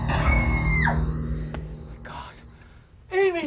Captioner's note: Amy screaming